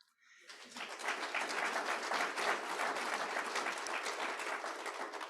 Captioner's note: audience applauding